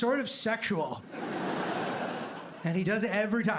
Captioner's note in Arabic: ضحك